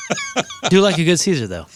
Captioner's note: laughing